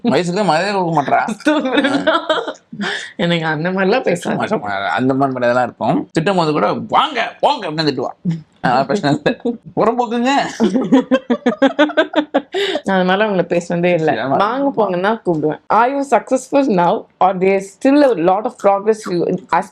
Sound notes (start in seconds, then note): 10.4 laughs